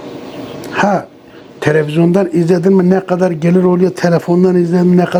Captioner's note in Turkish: boğazını temizler